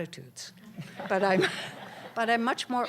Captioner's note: laughter